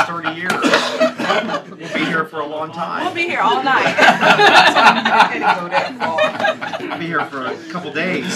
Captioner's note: laughter